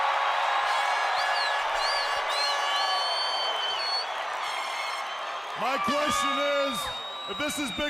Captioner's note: crowd cheering